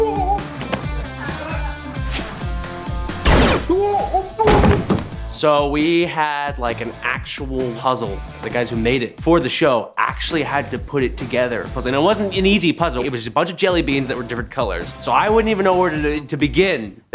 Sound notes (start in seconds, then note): 3.8 groaning